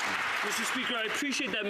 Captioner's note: some Applause